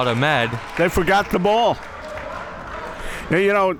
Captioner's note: spectators applauding